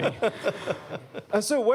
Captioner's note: laughter